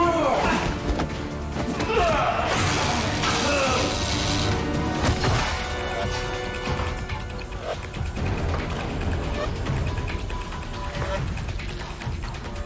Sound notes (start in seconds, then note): 0.1 dramatic suspenseful music; 0.1 fighters grunting; 2.5 electricity crackling; 3.2 dramatic music; 9.1 dramatic suspenseful music